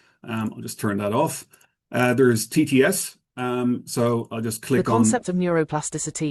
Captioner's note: text to Speech voice